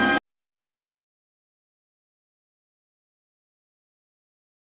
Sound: silence

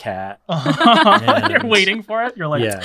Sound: all laughing

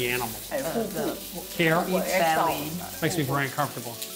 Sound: speaking local dialect

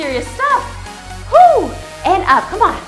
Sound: screams

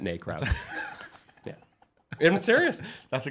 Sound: laughs

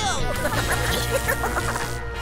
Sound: laughing

